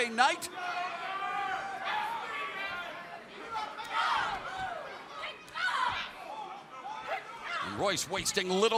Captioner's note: crowd chatter